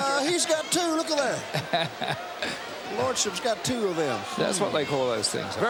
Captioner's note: laugh